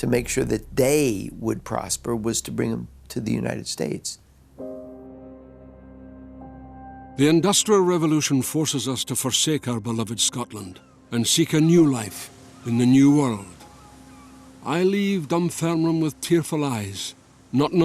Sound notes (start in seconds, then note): 7.6 Voz en off